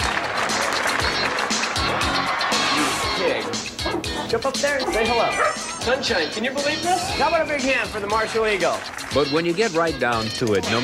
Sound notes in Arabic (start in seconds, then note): 0.0 الجمهور يصفق; 4.7 ينبح كلب